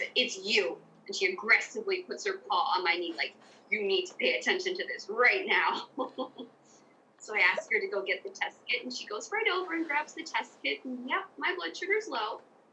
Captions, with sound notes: "It's you," and she aggressively puts her paw on my knee, like, "You need to pay attention to this right now." [laughs] So I ask her to go get the test kit, and she goes right over and grabs the test kit. And, yup, my blood sugar's low.